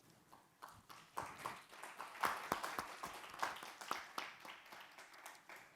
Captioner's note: everybody applauding